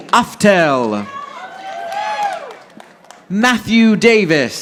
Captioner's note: audience applauding